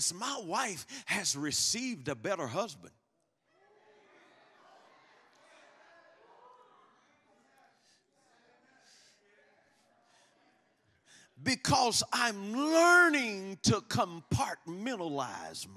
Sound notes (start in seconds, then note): 3.5 congregation muttering in agreement